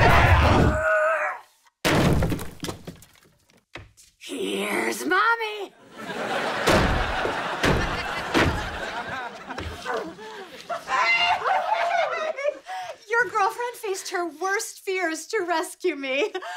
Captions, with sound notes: Here's mommy. [thudding] Hey. [chuckles] Your girlfriend faced her worst fears to rescue me.